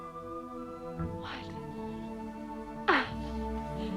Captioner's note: Hundra baby-talking; Hundra laughs